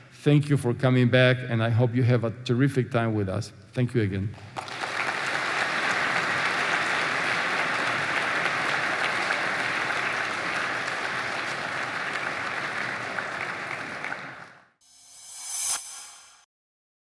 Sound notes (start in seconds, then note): 4.6 applause